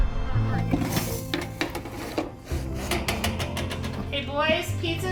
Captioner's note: metal clanging